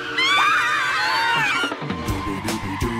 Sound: all scream

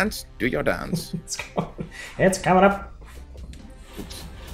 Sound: laugh

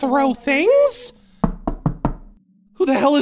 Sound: knocking on door

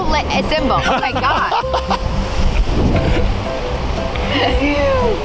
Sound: laughing

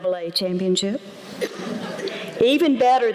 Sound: laughter

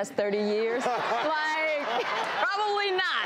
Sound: audience laughs

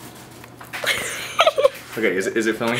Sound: nervous laughter

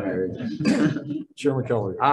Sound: group laughing

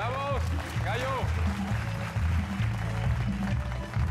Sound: Aplausos

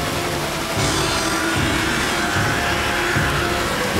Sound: screeching

